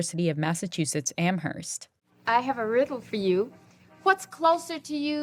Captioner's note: soundbite of tv show, "sesame street"